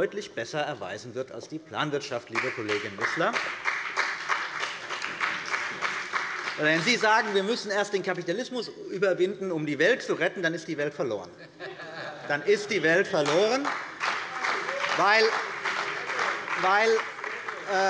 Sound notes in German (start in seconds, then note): 2.3 Beifall bei der CDU und dem BÜNDNIS 90/DIE GRÜNEN